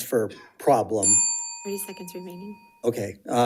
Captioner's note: bell dings